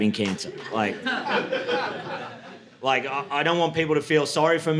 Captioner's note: audience laughing